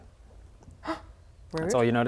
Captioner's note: gasp